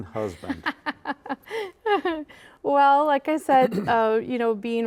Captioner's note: laughing